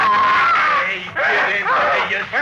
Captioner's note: screaming